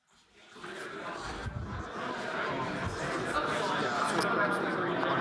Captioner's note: people chatter indistinctly